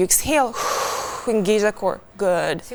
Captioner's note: exhales